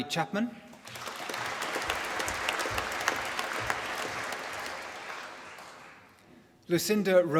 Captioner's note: applause